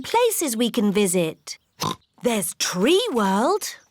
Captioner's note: oinks